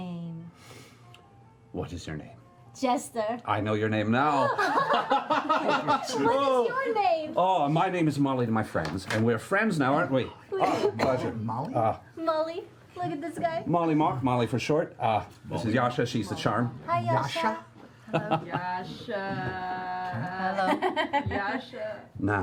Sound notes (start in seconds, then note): 4.4 laugh